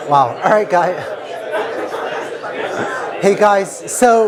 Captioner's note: laughter